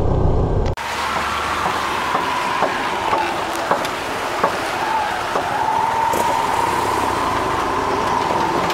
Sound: road noises

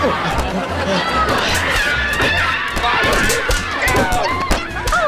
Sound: grunting; screaming

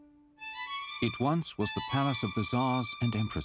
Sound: voiceover

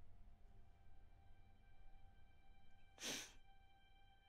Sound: girl cries

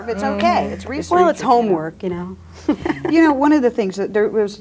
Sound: laughs

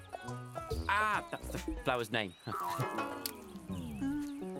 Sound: chuckling awkwardly

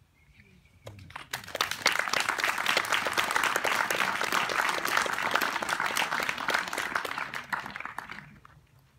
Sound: applause

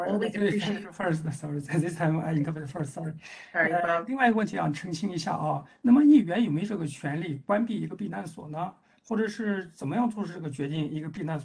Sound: speaks in Mandarin

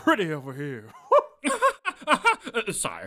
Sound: nervous laughter

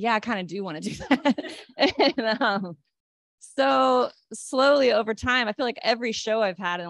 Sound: laughter

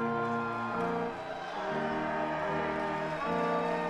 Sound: audience applauding

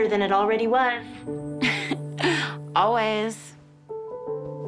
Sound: chuckles

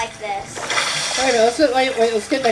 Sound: water splashing

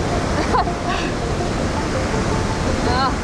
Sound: laughter

